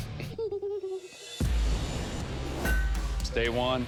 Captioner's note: giggles